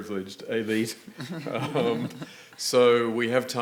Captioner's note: panel chuckling